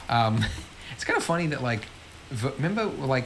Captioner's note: laughs